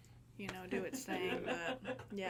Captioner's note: people laughing